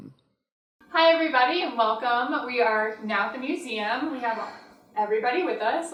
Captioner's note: existential sigh